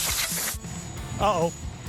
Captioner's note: loud air blowing; machines rumbling